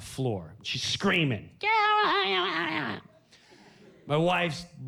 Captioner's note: mimics kid whining